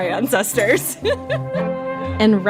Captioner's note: laughs